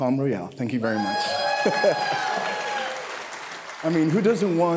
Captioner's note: audience cheering